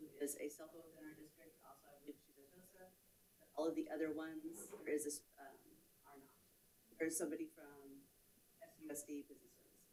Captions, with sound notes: who is a (faintly speaking) district also (faintly speaking) all of the other ones. There is this (faintly speaking) there's somebody from FCUSD business.